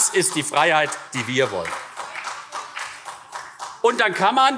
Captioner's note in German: Beifall CDU und SPD